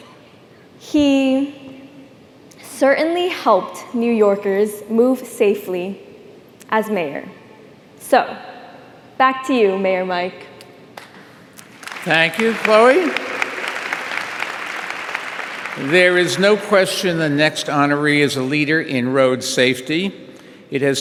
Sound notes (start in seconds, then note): 11.6 audience applauding